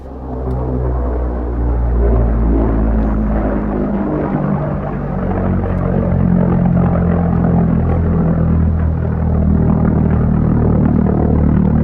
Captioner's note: planes flying overhead